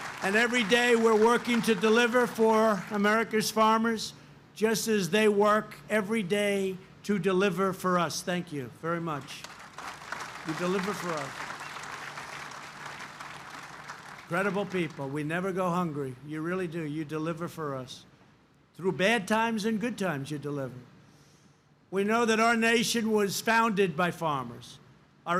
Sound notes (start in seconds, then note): 0.0 applause; 11.8 applause